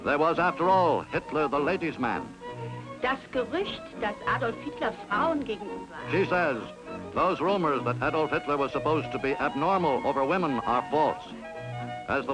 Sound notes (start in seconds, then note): 3.1 speaking German